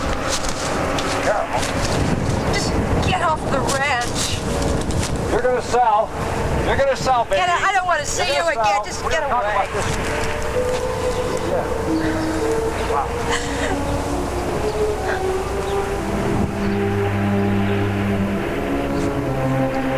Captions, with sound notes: Carol. - Just get off the ranch. - You're gonna sell. You're gonna sell baby. - Get out, I don't wanna see you again, just get away. (Carol crying) (dramatic music)